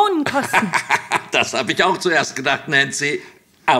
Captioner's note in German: lacht